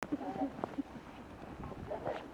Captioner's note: snow squeaking